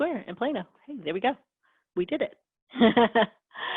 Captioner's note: laughs